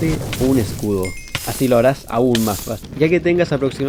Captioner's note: burning sounds